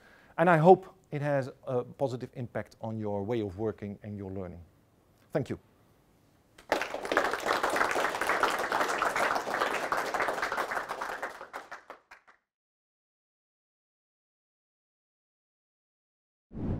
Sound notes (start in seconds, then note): 10.2 applause